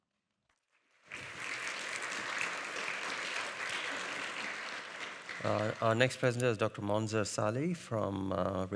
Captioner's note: audience applauding